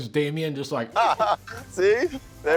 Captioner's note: laughs